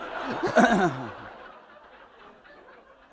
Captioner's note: laughter